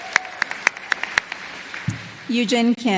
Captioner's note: applause